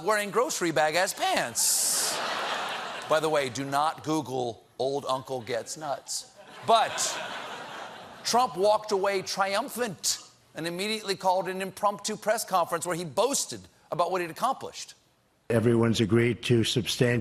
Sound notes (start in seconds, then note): 1.8 laughter; 9.2 laughter